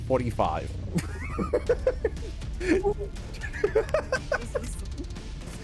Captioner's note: laughs